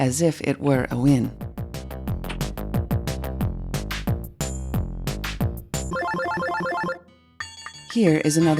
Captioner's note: winning bells